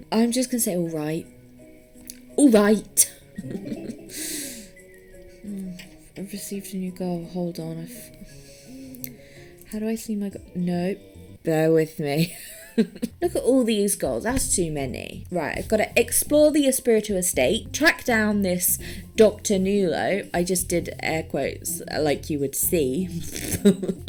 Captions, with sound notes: I'm just gonna say, "Alright." Alrigh-tuh! [laughs] Hm. I've received a new goal. Hold on. How do I see my go- Nope. Bear with me. [laughs] Look at all these goals. That's too many. Right. I've gotta explore the Espiritu Estate. Track down this Doctor Newlow. I just did air quotes. Like you would see. Doy.